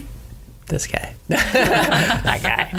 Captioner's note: laughs